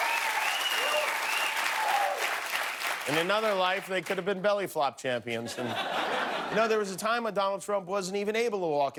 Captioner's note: cheers and applause